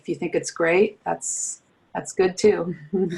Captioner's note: chuckles